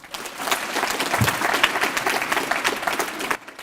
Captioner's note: applause